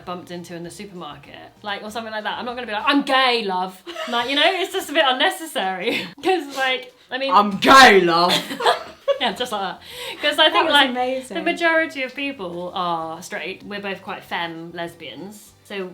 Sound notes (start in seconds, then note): 8.2 they laugh